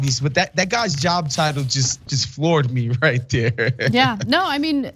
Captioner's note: laugh